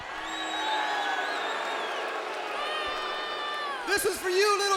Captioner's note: audience jeers